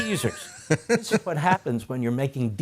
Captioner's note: laughter